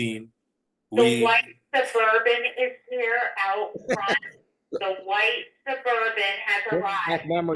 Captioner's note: loudspeaker announcement